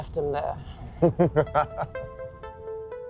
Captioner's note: laughs